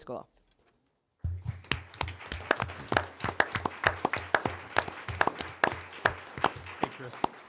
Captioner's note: applause